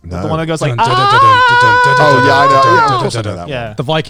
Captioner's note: blabbering